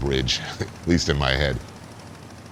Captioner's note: laughs